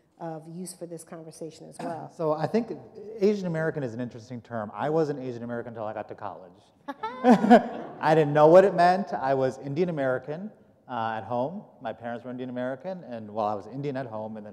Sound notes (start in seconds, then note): 6.9 laughter